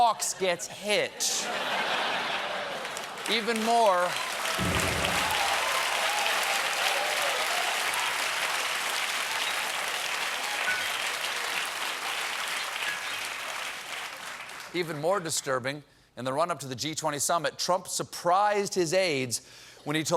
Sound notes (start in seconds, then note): 3.7 cheers and applause; 3.7 laughter